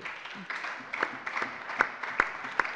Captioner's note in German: Allgemeiner Beifall